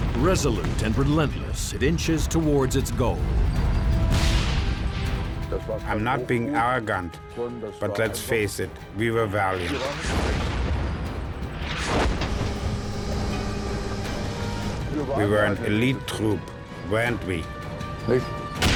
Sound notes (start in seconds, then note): 4.0 tank turret firing; 4.1 speaking in foreign language; 9.8 shell exploding; 11.6 turret whirring